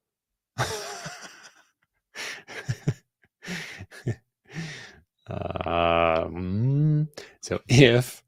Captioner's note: laughter